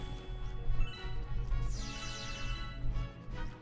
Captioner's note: Star Bits chiming; exciting music